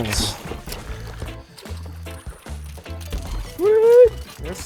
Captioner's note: fish splashing